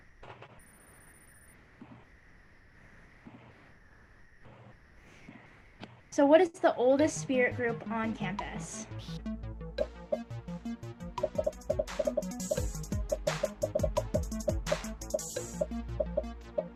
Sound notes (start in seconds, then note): 8.9 upbeat music; 9.0 popping